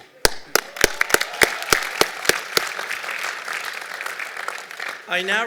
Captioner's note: applause